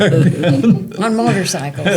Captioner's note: laughter